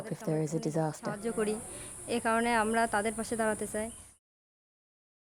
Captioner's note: foreign language